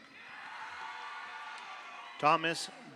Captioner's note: audience cheers; audience applauds